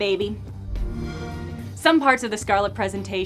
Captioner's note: Xbox woosh!